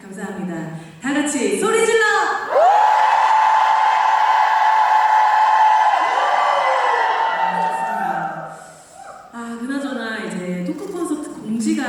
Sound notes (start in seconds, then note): 7.3 cheers